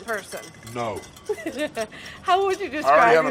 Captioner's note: laughing